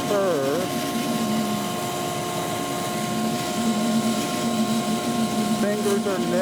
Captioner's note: bandsaw roaring